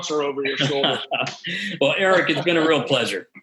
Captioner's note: both laughing